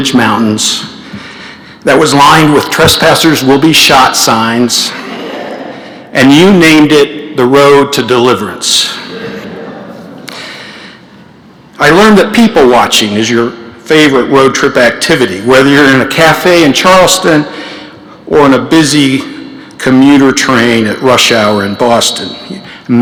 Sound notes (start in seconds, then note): 9.0 laughter